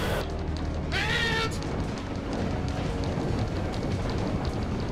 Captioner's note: screams